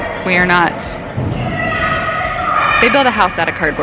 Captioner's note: screaming